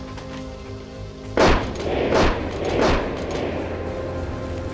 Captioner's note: gun bangs